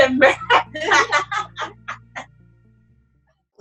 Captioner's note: laughter